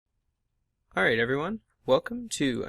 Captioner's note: voiceover